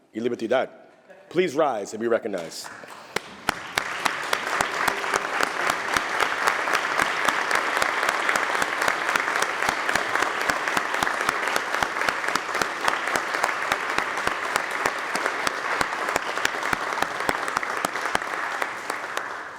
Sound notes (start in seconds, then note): 2.3 applause